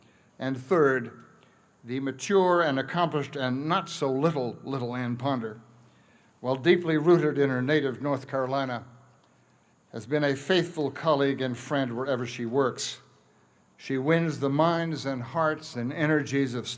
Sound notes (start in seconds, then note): none